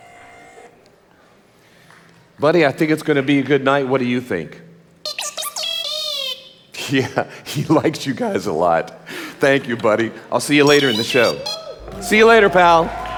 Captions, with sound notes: Budd-E I think it's gonna be a good night, what do you think? (Budd-E beeping) Yeah, he likes you guys a lot. Thank you, Budd-E, I'll see you later in the show. See you later pal.